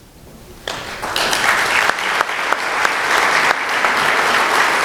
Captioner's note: applause